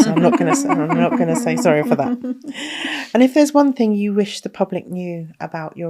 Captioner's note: laughing